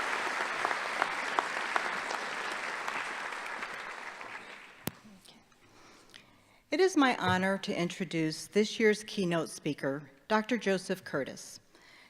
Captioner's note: applause